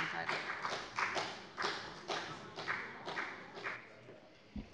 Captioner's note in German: Beifall bei der FDP